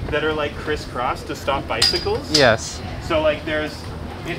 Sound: cane rings bars like chimes

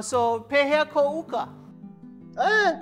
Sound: in Hawaiian language

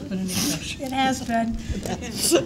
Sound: laughter

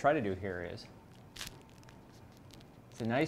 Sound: roll cracking

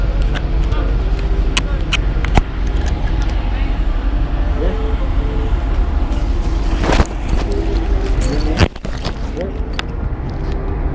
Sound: microphone noises

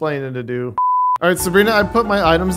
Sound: color bars beep

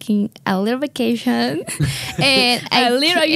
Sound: laughs

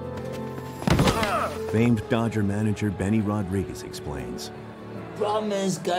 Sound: all Groan

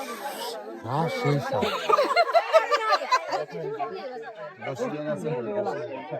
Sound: loud laughter

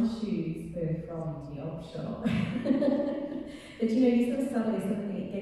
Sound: laughing

